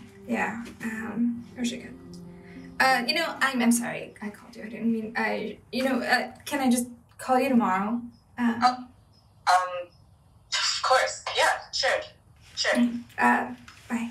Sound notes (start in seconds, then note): 9.2 on phone